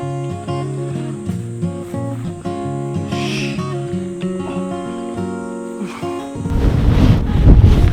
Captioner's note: haha